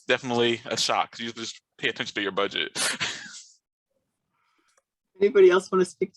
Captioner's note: laughs